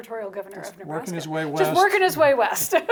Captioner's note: laughs